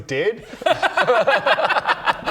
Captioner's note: bless your heart laughter